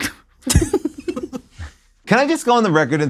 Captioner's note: laugh